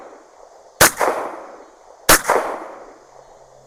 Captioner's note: gunshot